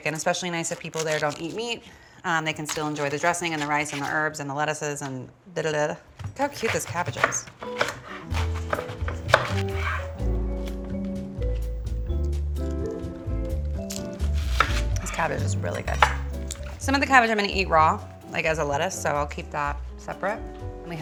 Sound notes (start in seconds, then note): 8.3 knife clatters; 10.5 gentle music